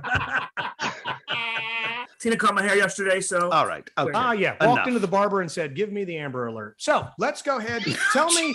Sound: laughter

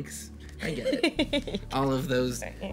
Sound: Annabelle chuckles

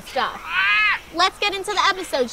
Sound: squawking

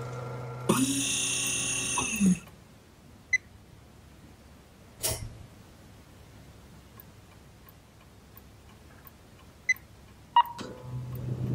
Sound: background clicks and beeps

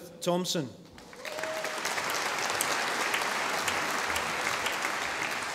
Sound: audience applauding

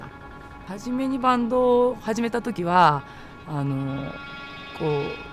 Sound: speaking foreign language

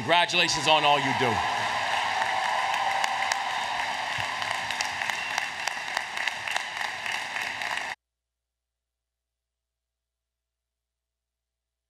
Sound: applause, Cheering

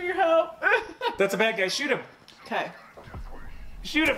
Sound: laughs

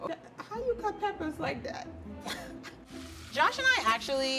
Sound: laughs

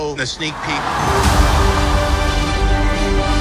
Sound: cheers

